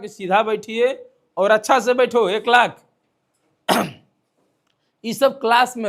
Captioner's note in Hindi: गला साफ़ करने की आवाज़